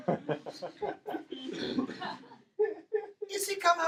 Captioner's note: laughing